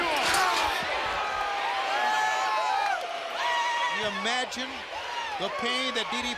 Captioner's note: crowd chatter